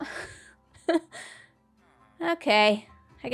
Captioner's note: chuckles